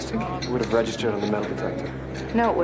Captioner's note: none